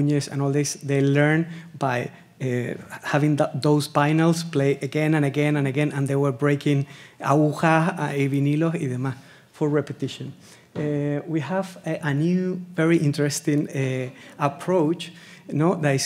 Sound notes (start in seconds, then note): 8.0 speaking Spanish